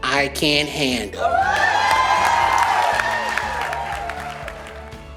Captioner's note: cheering and applause